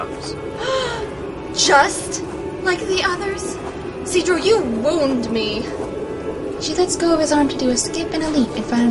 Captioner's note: gasps